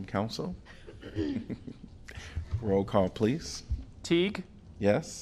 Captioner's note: laughter